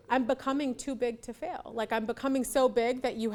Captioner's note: none